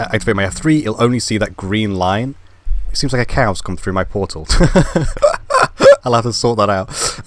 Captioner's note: laugh